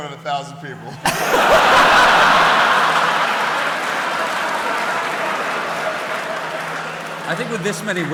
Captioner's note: laughter